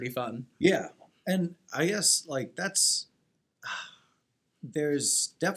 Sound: sighing

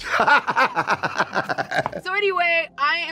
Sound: laughing

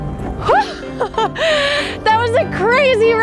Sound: playful music; laughing

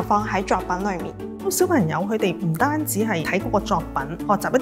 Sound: Cantonese

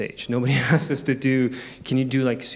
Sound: chuckles

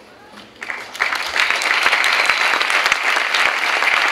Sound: clapping

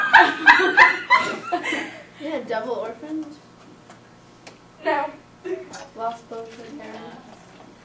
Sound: audience commentary: laughing

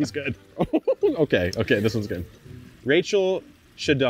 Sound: laughs

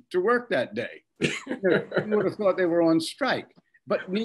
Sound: Bob laughing

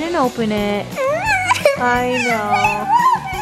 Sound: crying

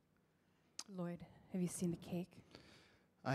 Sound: none

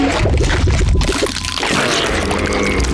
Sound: cracking

